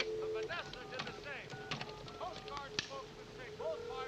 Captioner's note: click, dial tone; touch tones; ringing